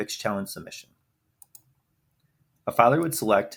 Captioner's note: mouse clicks